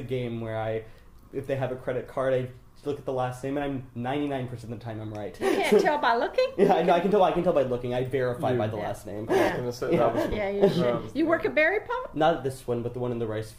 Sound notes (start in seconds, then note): 5.6 laughs; 6.1 jokingly scolding